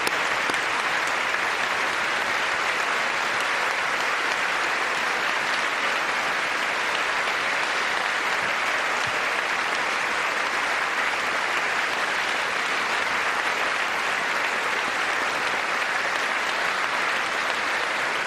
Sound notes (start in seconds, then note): 14.1 applause